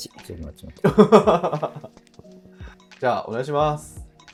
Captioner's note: laughing